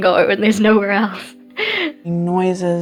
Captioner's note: chuckling